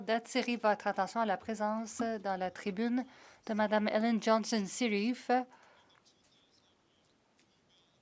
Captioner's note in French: voix de l'interprète